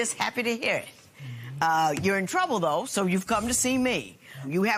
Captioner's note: none